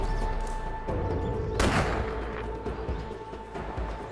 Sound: gunshot

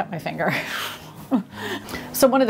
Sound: laughs

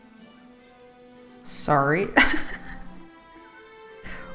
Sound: laughs

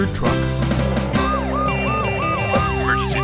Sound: upbeat music; siren wailing

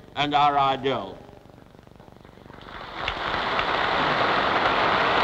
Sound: applause

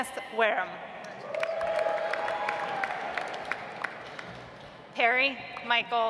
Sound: audience applauds

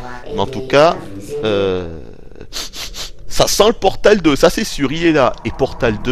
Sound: sniffs

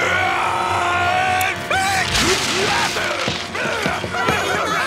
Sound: screaming

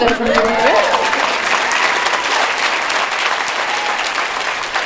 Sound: applause

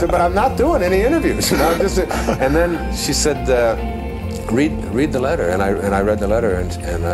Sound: laughter

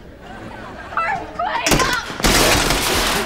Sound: screaming

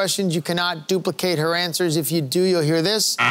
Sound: buzzer sounding

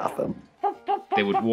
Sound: clucking

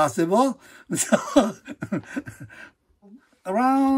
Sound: group laughing

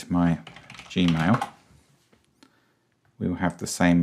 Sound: keyboard chattering

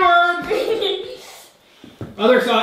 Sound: laughing

